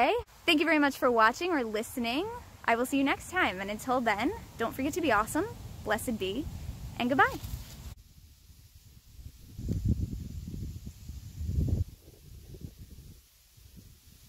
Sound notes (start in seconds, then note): 5.6 quiet, wind blowing through the trees